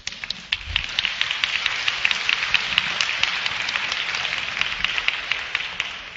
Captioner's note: applause